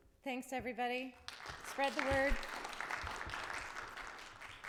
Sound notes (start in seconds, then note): 1.3 audience applauding